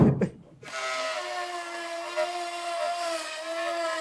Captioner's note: drill sound